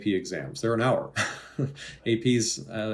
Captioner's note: laughing